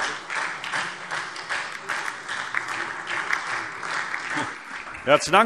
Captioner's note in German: Beifall SPD